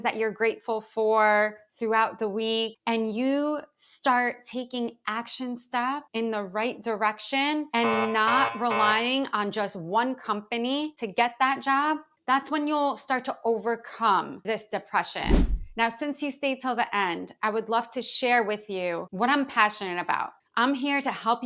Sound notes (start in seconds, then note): 7.8 buzzing sound